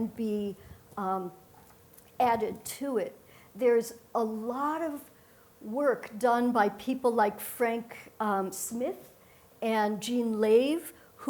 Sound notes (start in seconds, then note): none